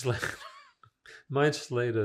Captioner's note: laughing